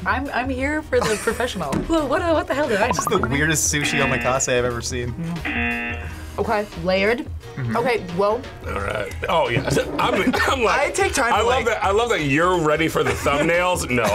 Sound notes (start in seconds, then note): 5.4 buzzer